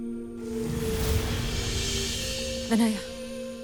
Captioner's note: sparkling whoosh, infernal whoosh-crackle